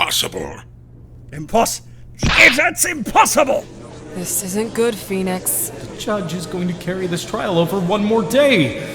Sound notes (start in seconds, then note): 3.1 gallery chattering in the background; 3.5 gallery chattering